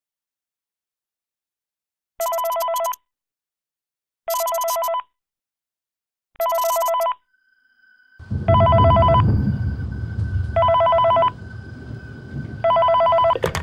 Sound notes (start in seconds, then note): 2.8 phone ringing